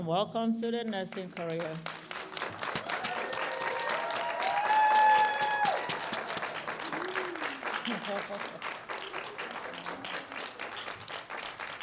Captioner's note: applause